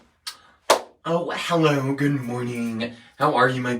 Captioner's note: claps hands